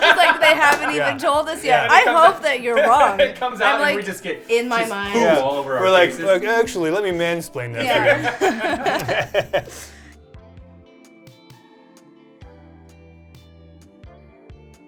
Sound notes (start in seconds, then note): 9.5 all laughing; 10.7 soft music playing